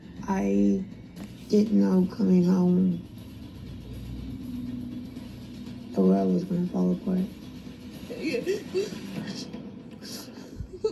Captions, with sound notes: I didn't know coming home, the world was gonna fall apart. (crying)